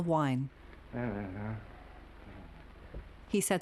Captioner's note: Norman muttering